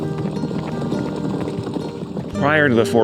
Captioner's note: horses trotting